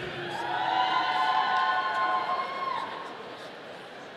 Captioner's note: audience cheering